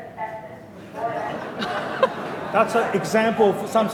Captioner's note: mumbles and laughing